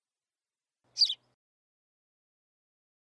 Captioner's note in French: chant d’oiseau